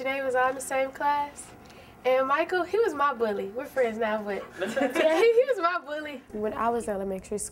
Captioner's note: laughs